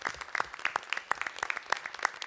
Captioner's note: applause